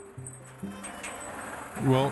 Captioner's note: cart engine whirring